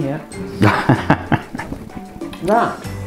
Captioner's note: laughs